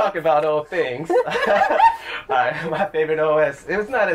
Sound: laughter

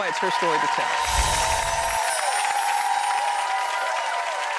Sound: audience cheering

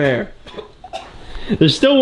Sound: coughs

